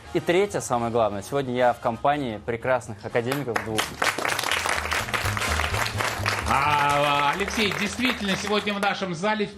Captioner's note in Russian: аплодисменты